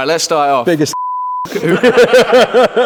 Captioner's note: beep; everyone laughing